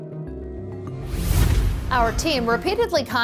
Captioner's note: scene swooshing